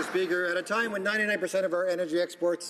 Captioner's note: some Applause